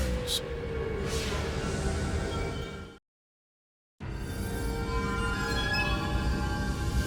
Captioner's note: graphics whooshing; mysterious music